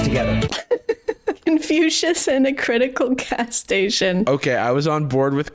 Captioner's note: chuckles